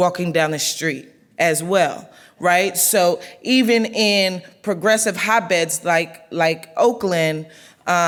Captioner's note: none